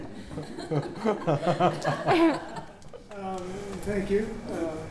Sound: audience laughing

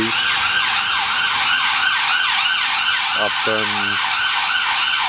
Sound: sirens wailing

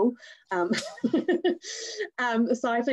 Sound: chuckles

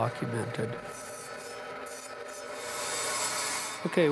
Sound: machine whirring; blade grinding

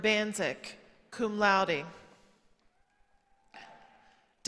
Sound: none

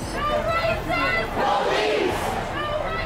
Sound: crowd

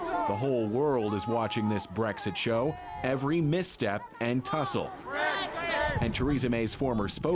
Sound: yelling

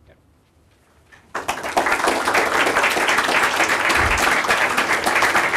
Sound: applause

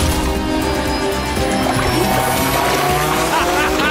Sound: beeping and whirring; vehicle whining; Tobor laughs

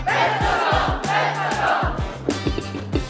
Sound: audience shouts

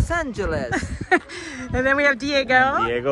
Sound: laughing

